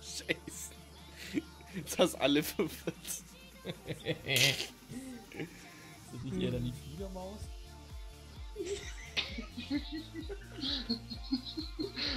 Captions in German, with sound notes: Du hast alle verwirrt [dreckiges Lachen] Wäre es dann nich eher die "Fleedermaus" ? [Lachen]